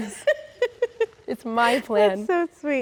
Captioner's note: laughs